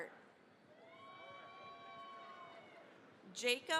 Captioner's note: cheering, applause